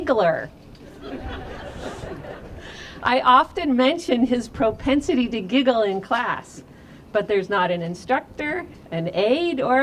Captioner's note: laughter